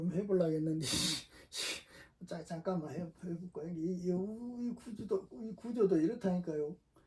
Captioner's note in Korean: 콧방귀